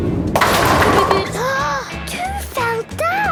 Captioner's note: giggling, Peppa gasping